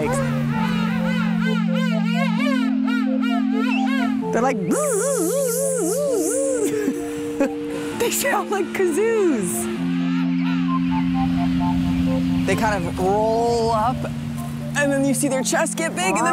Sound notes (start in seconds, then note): 0.3 penguin calls; 4.5 makes penguin sound